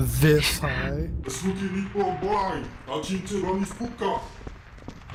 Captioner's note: NPC speaking gibberish